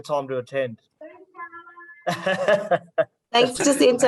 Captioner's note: laughs